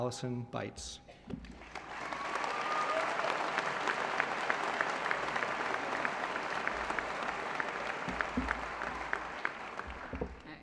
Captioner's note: applause